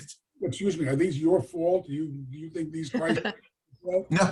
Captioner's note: all laughing